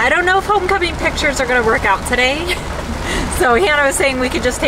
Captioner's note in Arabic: تضحك